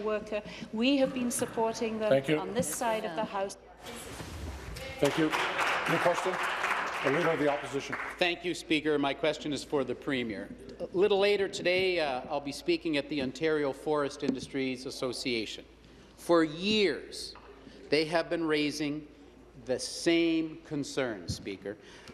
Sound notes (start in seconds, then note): 8.2 applause